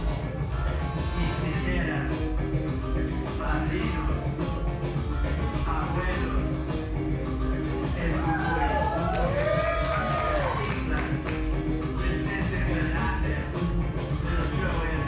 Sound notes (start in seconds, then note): 8.3 audience applauds and cheers; 14.6 energetic Spanish language music